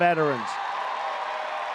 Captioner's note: applause